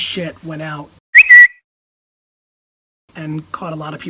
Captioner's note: bird tweet